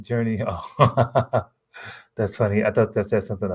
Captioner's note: laughs